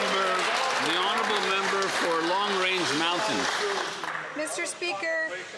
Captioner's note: some Applause